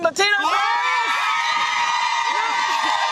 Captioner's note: cheering